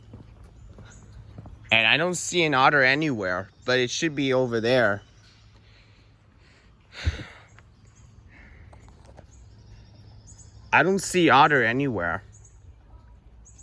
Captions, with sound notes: And I don't see an otter anywhere. But it should be over there. [exhales] I don't see otter anywhere.